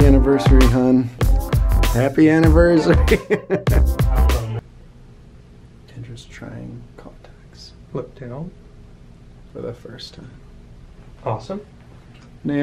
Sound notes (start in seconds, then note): 2.8 laughs